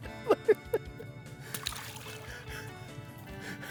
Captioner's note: chuckles